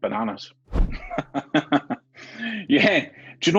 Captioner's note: laughs